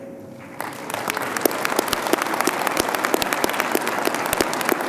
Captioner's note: audience applauding